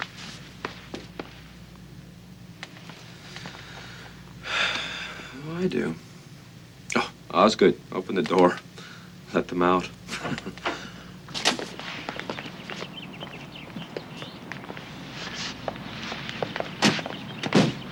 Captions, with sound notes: (Casey sighs) - Oh, I do. Oh, Osgood, open the door, let them out. (birds chirping)